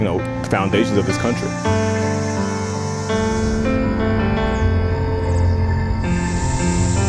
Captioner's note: uplifting piano music; insects trilling